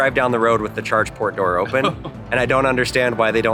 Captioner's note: laughs